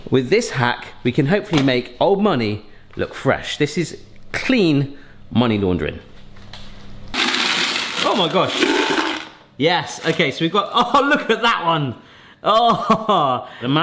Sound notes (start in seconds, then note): 7.2 coins jangling on counter; 10.7 laughing